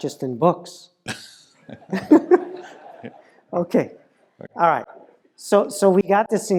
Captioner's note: laugh